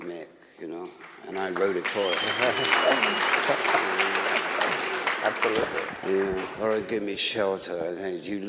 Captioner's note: applause